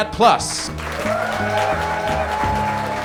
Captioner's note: applause